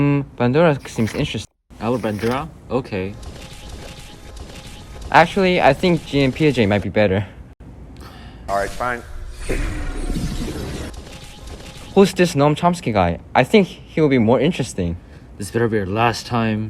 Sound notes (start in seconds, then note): 8.0 sighs